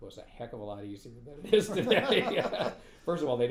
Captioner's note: laughing